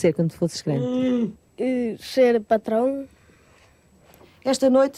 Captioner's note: speaking portugese